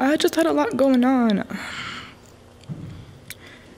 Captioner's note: sigh